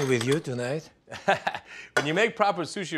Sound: Ming laughs

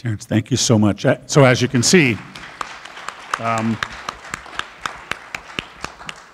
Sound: group applauding

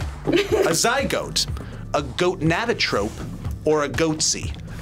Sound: laughs

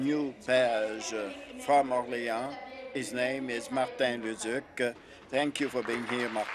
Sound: speaking in French

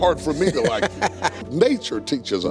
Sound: Steve laughs

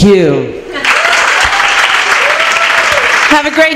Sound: applause

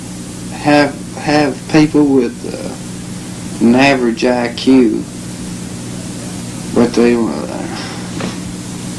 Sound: sighs

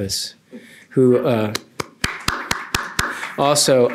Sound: applause

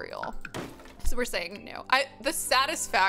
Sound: door pops

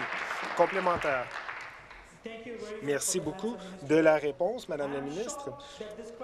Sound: some Applause

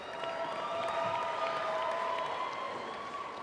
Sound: applause

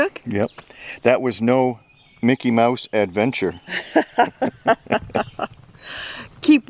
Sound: laughing

